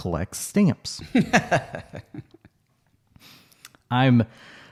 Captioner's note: laughs